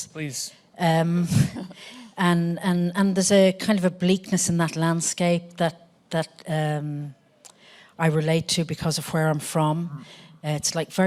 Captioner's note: laughter